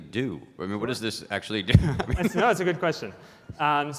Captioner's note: laughing